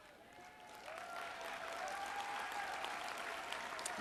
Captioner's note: applause